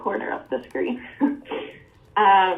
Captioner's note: giggles